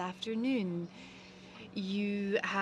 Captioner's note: speaking French